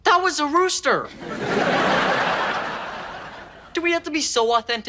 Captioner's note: audience laughing